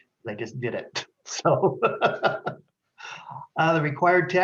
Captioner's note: laughs